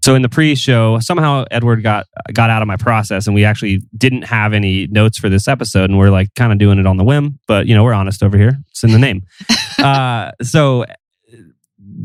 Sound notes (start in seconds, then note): 8.8 laughs